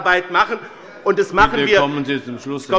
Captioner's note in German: Lachen bei der SPD